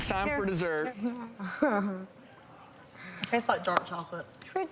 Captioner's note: Alana laughing